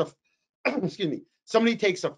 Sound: coughs

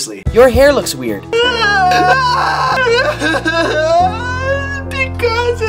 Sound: sobbing

